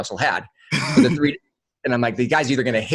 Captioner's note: laughs